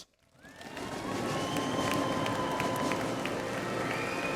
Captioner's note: audience applauds